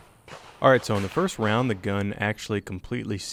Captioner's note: voiceover